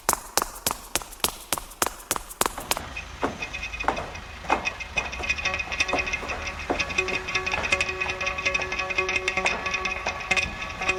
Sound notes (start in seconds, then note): 3.1 footsteps plodding; 3.1 pensive music